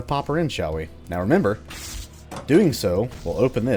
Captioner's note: junction box crackles